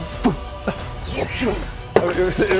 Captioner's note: whooosh